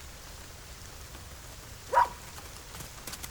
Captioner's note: barking